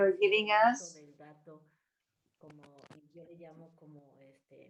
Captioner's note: speaking spanish